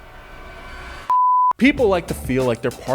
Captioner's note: creepy violin music; beep